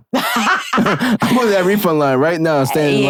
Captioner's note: laughing